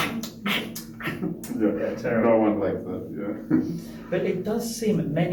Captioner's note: loud eating sounds